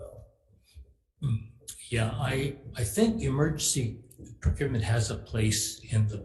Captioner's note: clears throat